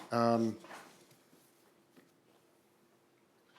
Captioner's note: paper rustling